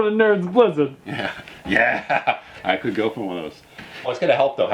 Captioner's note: laughs